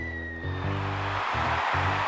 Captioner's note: crowd cheers